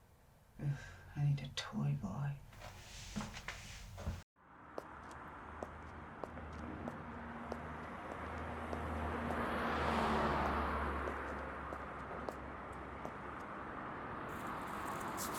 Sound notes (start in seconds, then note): 4.7 traffic whooshing